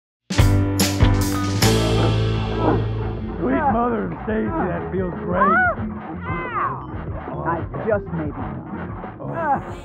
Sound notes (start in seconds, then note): 2.4 chattering